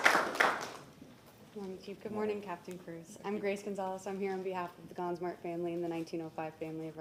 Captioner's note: applause